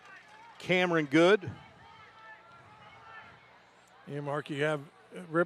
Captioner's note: applause